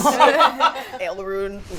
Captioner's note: laughs